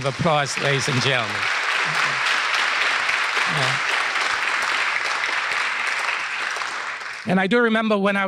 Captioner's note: applause